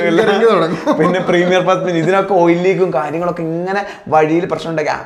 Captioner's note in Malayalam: പൊട്ടിച്ചിരി